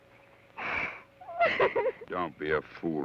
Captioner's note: sobs